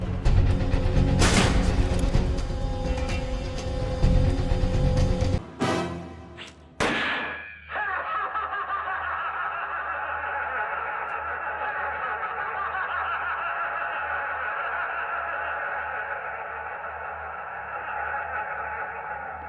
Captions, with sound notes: [Loud clicking/machinery moving] [Gunshot, ricochet] Hahahahahahaha...